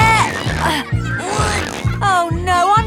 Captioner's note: grunting